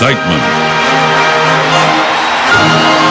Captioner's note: crowd cheering